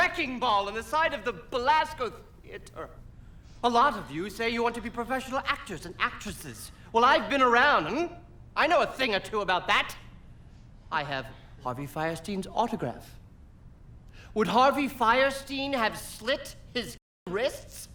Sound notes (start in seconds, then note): none